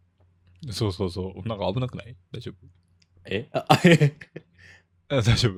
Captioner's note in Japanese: 笑い